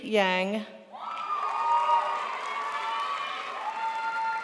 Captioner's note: crowd applauds